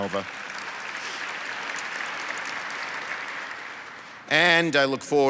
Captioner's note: audience applauds